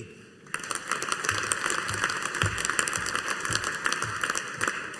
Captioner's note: audience applauding